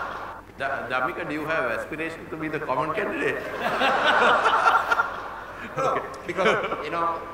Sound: laughter

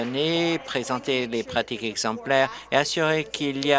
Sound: applause

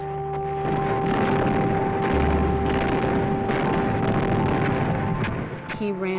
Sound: bombing and artillery noise

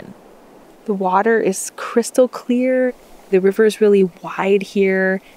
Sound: gentle bubbling of water

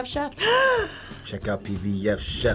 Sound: gasping

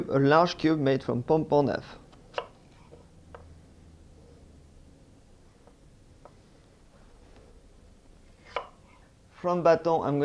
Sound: cutting sounds

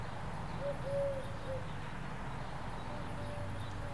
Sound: birds Chirping

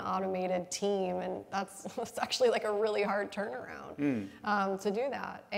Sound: laughs

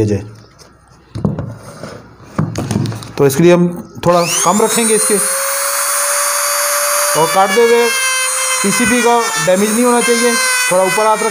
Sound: grinder cutting voice

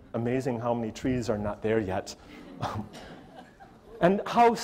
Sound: audience laughter

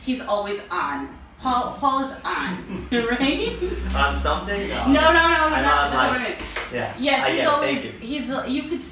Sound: laughs

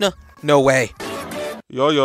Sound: triumphant Sound

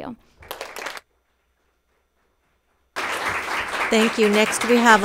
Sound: audience applauds

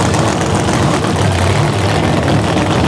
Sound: engine sounds

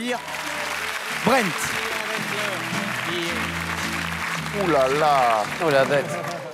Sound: clapping

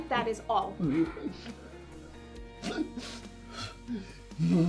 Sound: wailing

